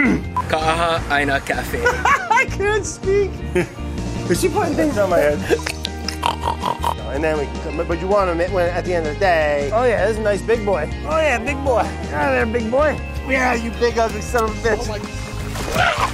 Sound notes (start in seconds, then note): 6.1 snorts; 14.9 fish slapping